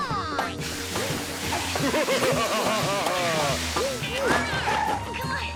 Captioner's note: evil laughter